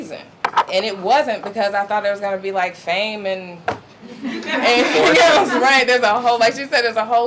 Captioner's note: audience laughing